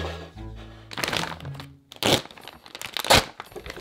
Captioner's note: bag rustling